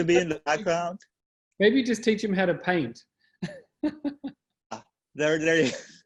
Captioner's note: laughs